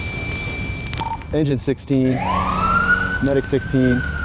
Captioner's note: siren